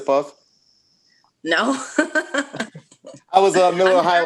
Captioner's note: laughs